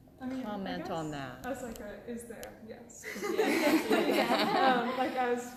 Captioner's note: laughter